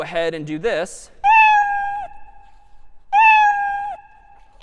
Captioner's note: meowing